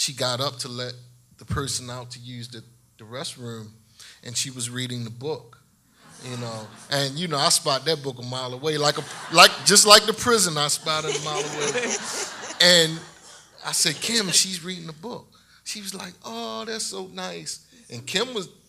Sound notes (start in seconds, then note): 6.0 audience laughs; 11.7 laughing